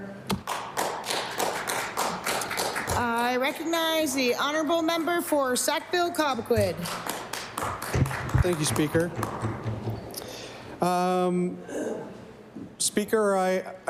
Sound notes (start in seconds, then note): 6.8 applause